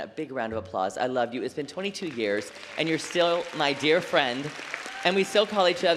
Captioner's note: applause